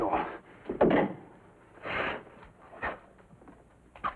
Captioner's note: door closes